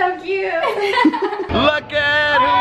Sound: giggling

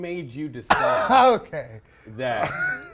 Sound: laughs

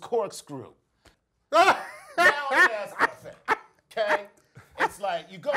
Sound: laugh

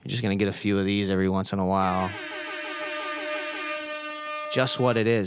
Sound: air horn

